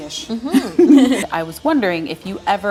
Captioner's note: laughing